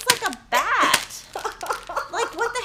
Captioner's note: laughing